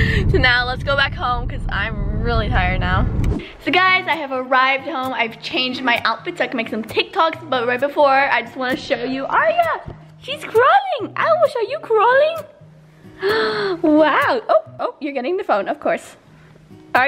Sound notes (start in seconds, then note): 2.2 air swoosh